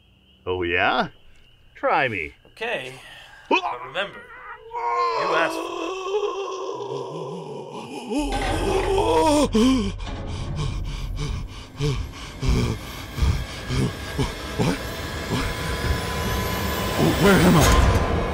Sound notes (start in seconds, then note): 3.5 Magnar shrieks; 6.1 Magnar breathes heavy in panic